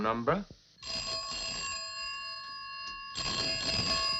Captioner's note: phone ringing